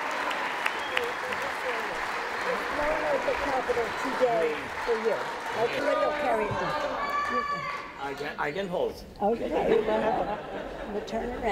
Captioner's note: applause